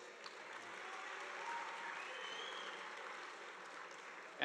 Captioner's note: audience applauding